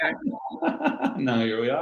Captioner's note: laughing